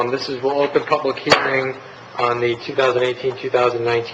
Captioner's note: gavel striking